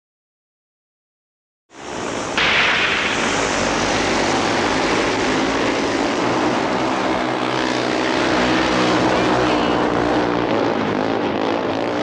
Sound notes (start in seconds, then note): 1.8 bikes droning; 9.0 spectator shouts; 11.8 bikes droning